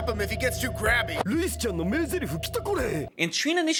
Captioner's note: Japanese Daru sounding exactly like Barney the Dinosaur